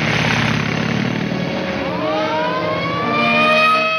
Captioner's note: siren wailing